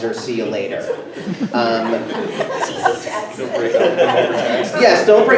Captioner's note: everyone laughs